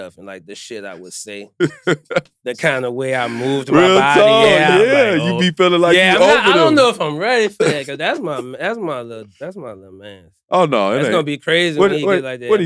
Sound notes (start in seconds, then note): 1.6 laugh